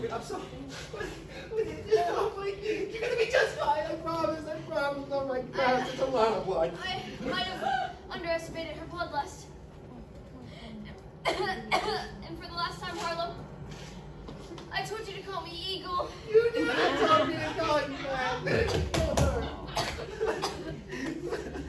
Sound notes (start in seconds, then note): 0.3 Harlow sobbing noises; 11.2 cough, cough; 13.7 sniff; 16.5 sobbing; 20.7 more sobbing